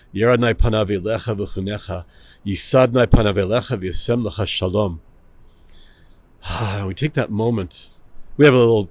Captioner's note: Hebrew